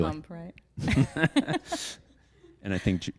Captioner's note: chuckles